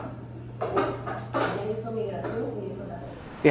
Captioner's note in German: auf Spanisch